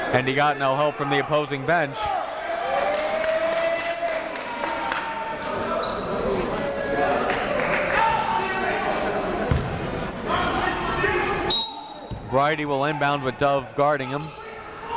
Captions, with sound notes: and he got no help from the opposing bench. (crowd talking) (coaches yelling) (whistle blows) Brydie will inbound with Dove guarding him.